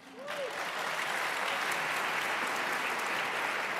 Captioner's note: applause